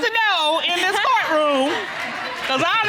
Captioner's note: chuckling